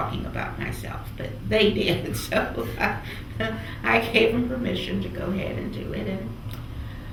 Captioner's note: laughs